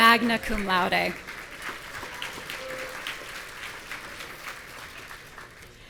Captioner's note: audience cheering